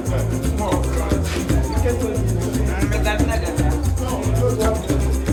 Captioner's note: playful lively music; people chattering in background; happy lively music